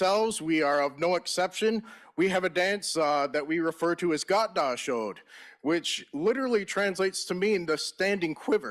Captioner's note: in Native language